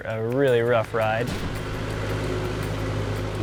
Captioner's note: Marsh Master engine whirring